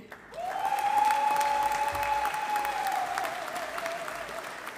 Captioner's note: audience applauding